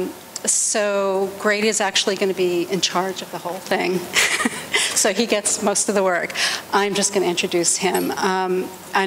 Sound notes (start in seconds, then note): 4.1 laughter